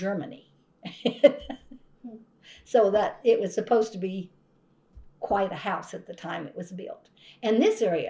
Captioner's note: laughs